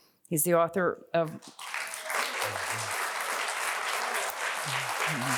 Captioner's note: audience applauding